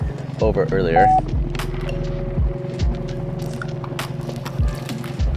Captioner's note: electronic beeps